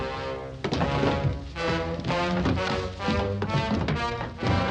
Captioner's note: clattering